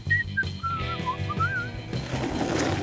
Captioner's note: whistles melodically